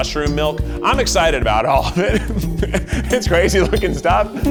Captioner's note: giggles